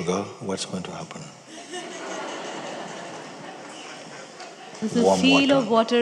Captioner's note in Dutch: gelach